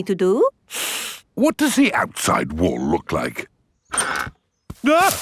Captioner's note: inhales sharply